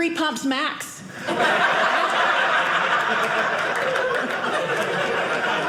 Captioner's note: audience laughing